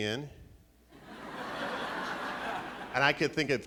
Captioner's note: laughing